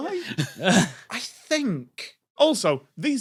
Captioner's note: snicker